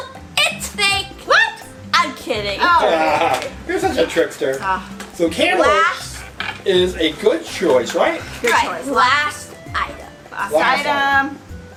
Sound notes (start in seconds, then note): 2.7 laughs